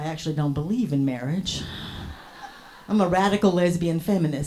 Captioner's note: scattered applause, hearty laughs from audience